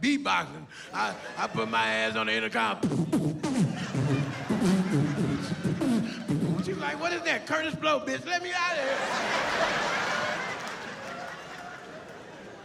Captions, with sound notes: my ass was beat-boxing. I put my ass on the intercom. [beatboxing] She was like, "What is that?" "Kurtis Blow, bitch. Let me out of here!"